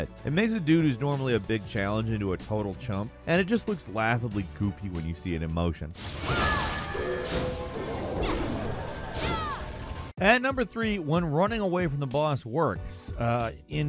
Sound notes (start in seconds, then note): 6.9 hero grunts; 8.3 magic whirs